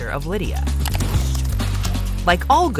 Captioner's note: keyboard clicking